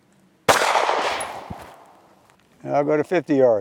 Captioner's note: gunshot fired